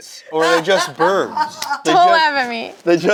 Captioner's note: laughs